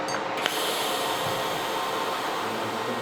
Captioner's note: hissing